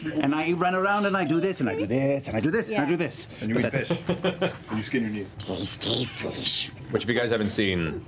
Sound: Gollum voice

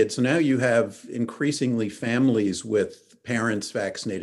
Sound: none

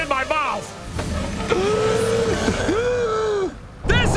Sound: gasping

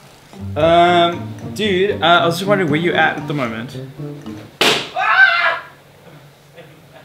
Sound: balloon pops; screams

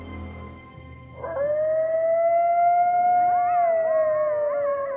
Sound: coyotes howling

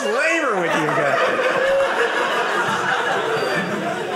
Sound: audience laughing

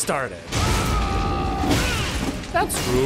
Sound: an interloper’s roar

